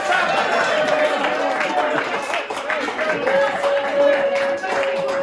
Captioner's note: cheering